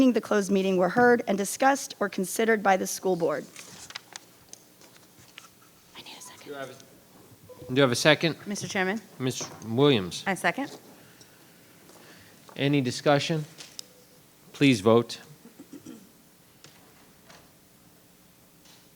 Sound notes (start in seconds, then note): 3.4 paper rustling; 7.4 microphone beeping; 15.5 throat clearing